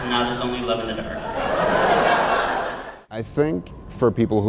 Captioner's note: laughter